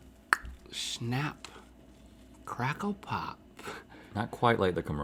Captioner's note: clicks tongue